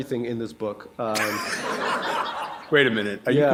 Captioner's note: laughter